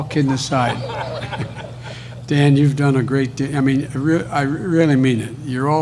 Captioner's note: laughter